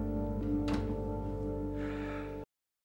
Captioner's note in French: soupir